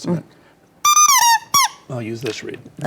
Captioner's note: reed whistling